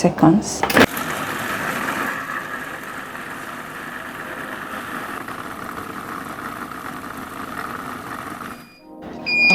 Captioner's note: food processor sound